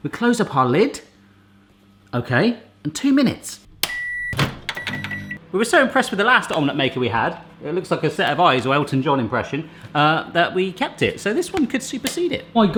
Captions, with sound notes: We close up our lid, OK, and two minutes. (microwave beeping) We were so impressed with the last omelette maker we had, it looks like a set of eyes or Elton John impression, that we kept it. So this one could supersede it.